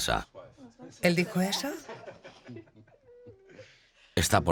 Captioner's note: laughs loudly